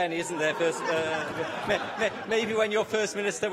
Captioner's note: laughter